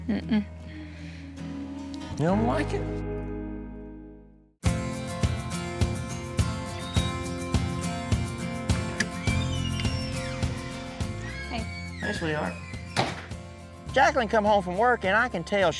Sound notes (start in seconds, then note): 8.9 door opens; 11.9 door closes